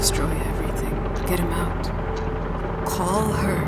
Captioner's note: dramatic music; helicopters